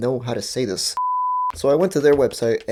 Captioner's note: beep